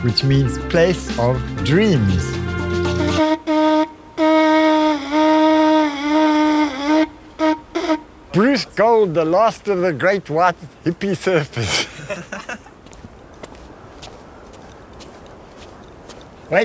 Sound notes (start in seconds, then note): 1.6 conch horn blows loudly; 11.4 laughs; 11.9 light footsteps